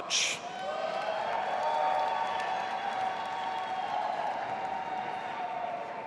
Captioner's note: audience applauding and cheering